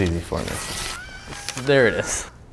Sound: page rips

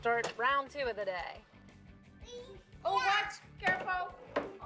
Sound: shouts

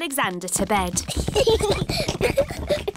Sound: children giggling

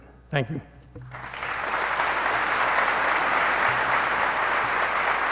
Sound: applause

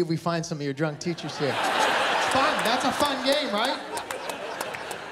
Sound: laughter

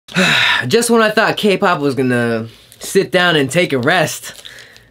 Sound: sighs

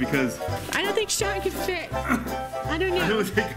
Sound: grunts

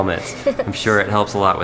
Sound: laughs

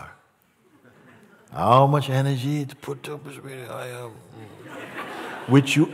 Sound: laughter

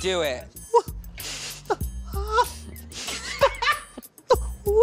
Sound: laughs; cries like Cowardly Lion; laughing

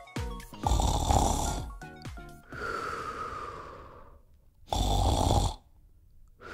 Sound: snoring

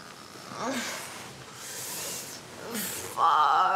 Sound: moaning

